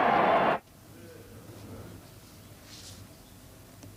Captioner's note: silence in senate